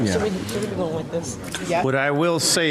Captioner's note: laughter, indistinguishable conversation